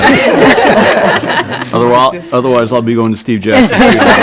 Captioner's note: laughing; laughing